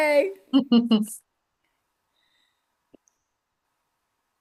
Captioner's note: laughs